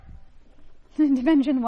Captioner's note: laughs